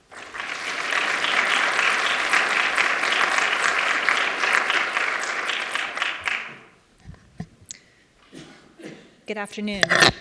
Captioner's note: applause